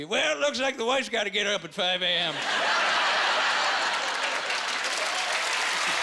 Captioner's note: laughing